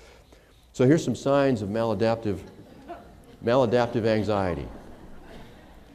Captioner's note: laughter